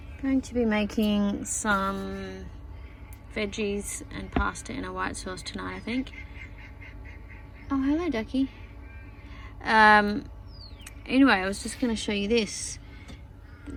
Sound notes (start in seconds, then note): 6.0 loud quacking from outside